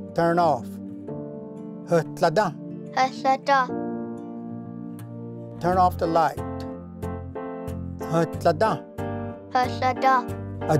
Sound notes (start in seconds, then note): 1.5 repeats in Cherokee; 6.7 Repeats first word in Cherokee